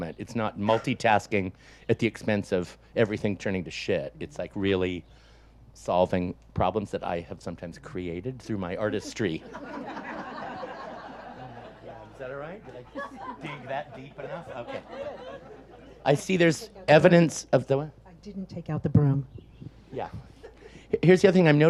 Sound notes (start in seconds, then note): 8.8 audience laughs; 15.6 speaks faintly